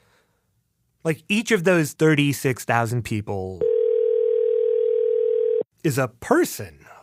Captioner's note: ARCHIVE CLIP: phone ringing